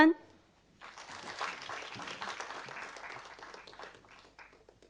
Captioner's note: audience applauding